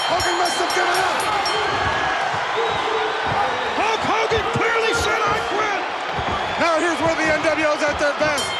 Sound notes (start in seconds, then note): 0.0 bell ringing; 1.1 body thudding